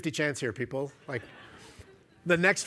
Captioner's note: laughter